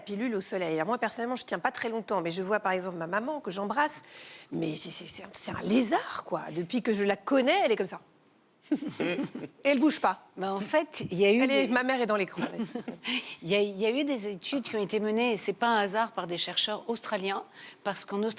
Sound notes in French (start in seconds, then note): 8.4 rires